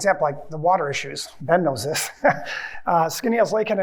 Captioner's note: laughs